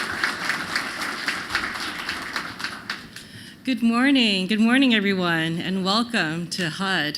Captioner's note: applause